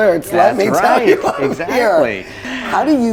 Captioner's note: laughs